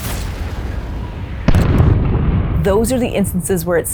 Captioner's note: exploding